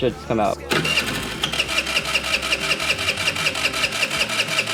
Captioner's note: revving starter